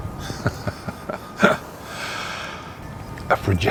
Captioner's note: Jim laughs